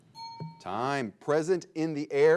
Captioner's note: bell chimes